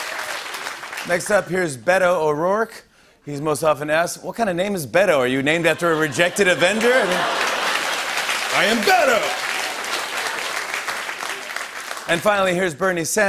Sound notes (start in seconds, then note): 5.7 laughter and applause